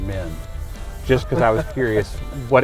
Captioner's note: laughing